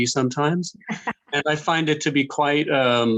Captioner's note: laughing